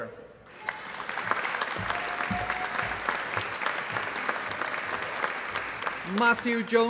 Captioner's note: applause